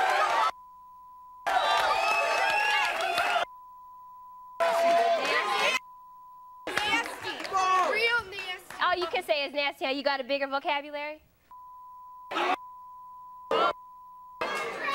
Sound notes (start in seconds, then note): 0.0 audience cheering; 0.5 beep; 3.3 beep; 11.5 beep